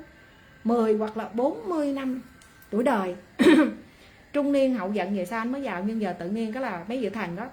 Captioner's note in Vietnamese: hắng giọng